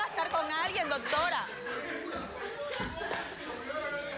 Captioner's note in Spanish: risas